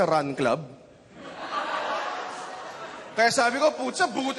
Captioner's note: laughter